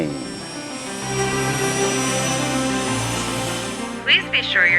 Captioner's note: helicopter rotor whirring